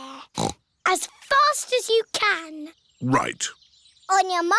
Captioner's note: snorts